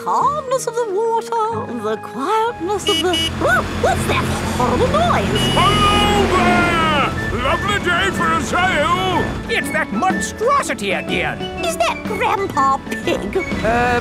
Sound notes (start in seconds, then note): 2.6 honking